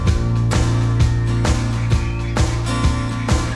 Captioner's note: birds chirping